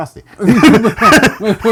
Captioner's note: laughter